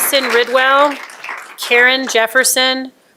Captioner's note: applause